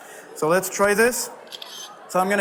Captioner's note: camera shutters